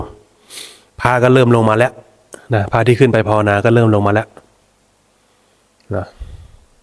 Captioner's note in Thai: เสียงสูดหายใจ